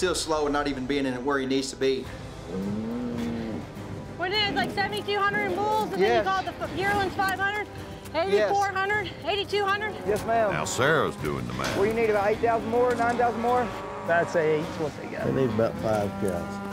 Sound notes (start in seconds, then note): 2.4 cows moos